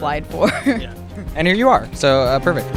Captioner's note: laughing